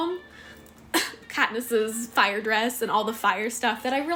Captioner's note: coughs